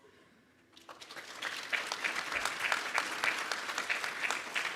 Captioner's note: audience clapping